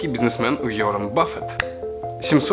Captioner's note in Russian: Щелчок пальцами